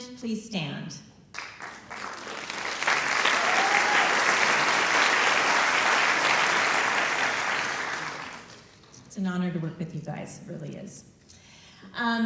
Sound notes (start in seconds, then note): 4.3 applause